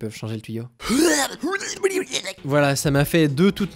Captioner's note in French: vomissements